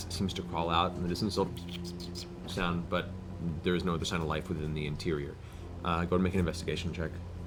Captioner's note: rat squeaking